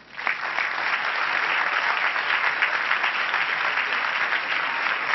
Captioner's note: crowd applauding